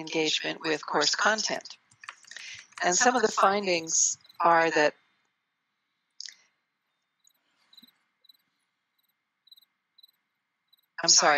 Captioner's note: pause